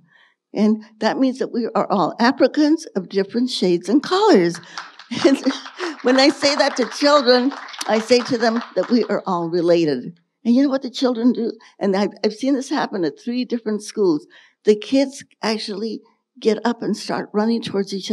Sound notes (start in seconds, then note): 4.5 audience applauding